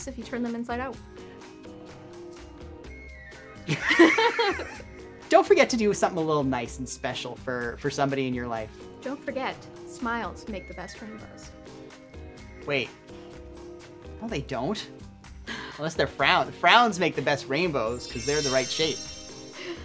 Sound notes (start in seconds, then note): 3.6 laughter